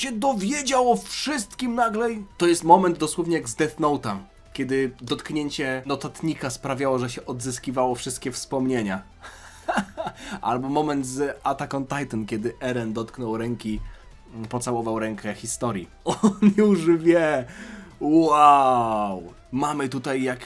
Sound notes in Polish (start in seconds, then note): 9.2 śmiech